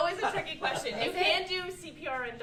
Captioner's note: laughter